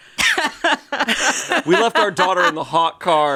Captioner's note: laugh